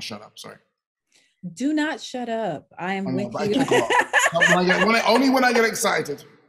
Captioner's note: laughing